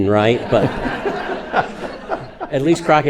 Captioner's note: everyone laughing